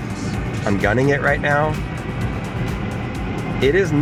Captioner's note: car revving